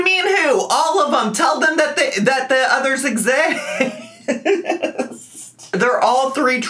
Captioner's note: laughs